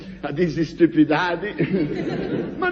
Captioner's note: laughs